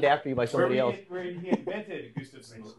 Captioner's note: chuckles